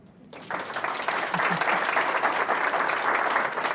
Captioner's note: audience applauds